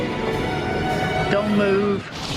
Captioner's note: none